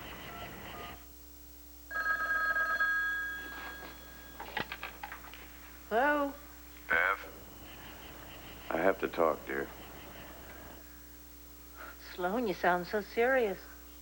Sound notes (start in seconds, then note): 1.8 telephone rings